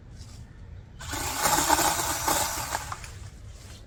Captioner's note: chainsaw revs